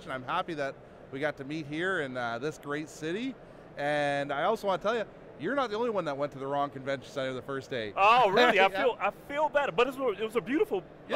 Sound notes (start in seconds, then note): 8.1 laughs